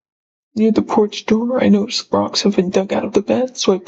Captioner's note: none